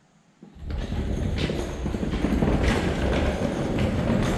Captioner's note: jacks scraping